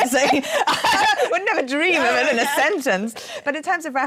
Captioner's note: laughing